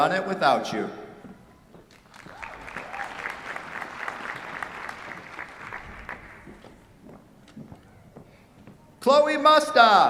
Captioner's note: applause